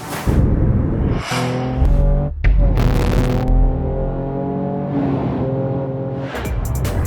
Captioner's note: transitions whooshing; car engine roaring